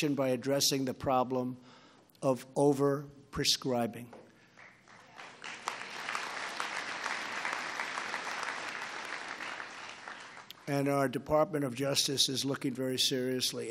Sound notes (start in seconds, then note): 4.5 applause